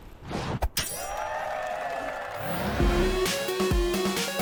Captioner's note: cheering and applause